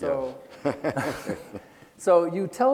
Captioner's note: laughing